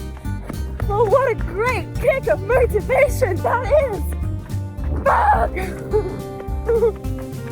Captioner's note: shrieks; shuddering; upbeat music